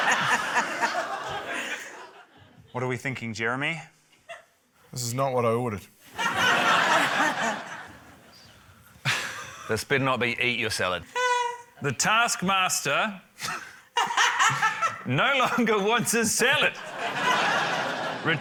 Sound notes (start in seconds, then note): 6.1 laughter; 9.2 laughs; 14.0 laughs; 14.0 urzila laughs; 16.5 laughter